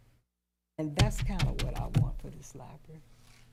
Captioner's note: thumping table